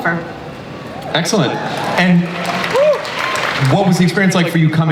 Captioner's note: audience applauds